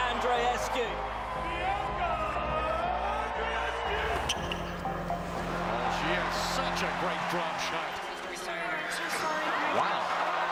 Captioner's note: cheers and applause